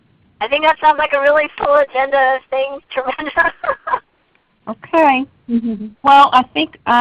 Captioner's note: laughs